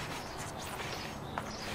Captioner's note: soft scraping